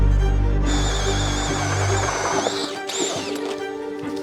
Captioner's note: drill whirring